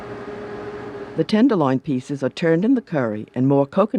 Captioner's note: voiceover